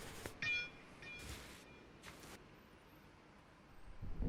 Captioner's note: metal clanging